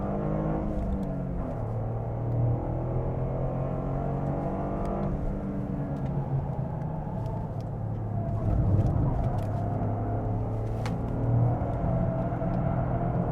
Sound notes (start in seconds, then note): 8.9 engine raging